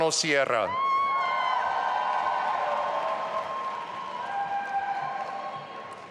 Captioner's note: audience applauding and cheering